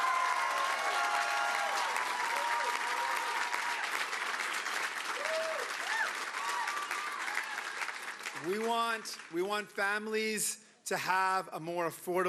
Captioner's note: cheering and Applause